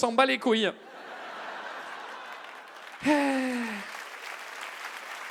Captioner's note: audience laughs and claps